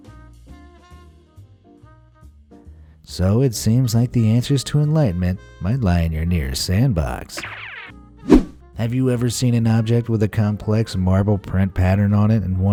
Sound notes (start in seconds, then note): 0.0 light jazz music; 8.2 whoosh